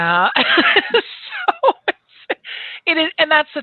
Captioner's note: laughs